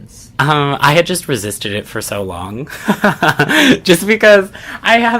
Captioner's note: laughs